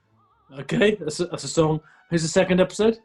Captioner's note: laughs